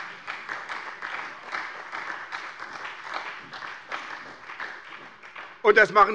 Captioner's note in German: Beifall bei der SPD